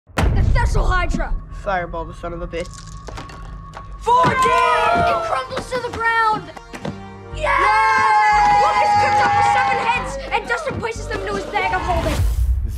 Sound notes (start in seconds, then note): 2.6 dice rolling; 4.0 boys scream